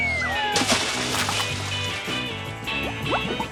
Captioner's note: air whooshing; water splashes; bubbles popping